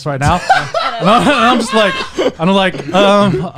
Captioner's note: laughing